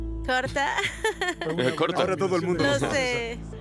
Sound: ríe

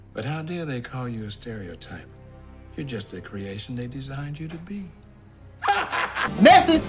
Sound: maniacal laugh

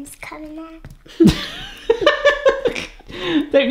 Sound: laughs

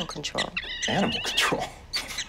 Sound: rodents squeaking

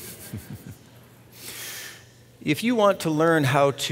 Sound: chuckles

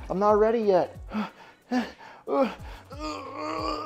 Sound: heavy breathing

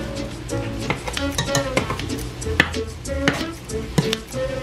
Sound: chopping

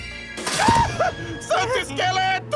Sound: scream

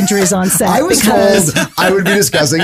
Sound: laughing

